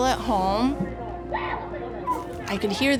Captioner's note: people yelling